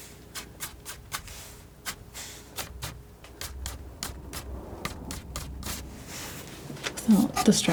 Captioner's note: scratching